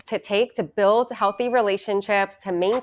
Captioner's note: bell ringing